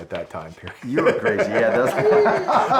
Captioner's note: laughs